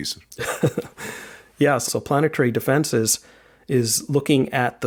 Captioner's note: laughs